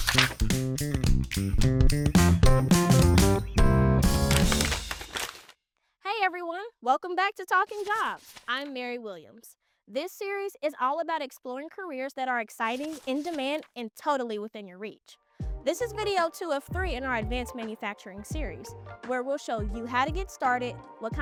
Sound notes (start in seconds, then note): 0.0 groovy upbeat music; 0.1 page rustling; 4.1 paper crumbling